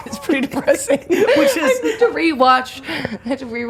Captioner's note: laughs; laughter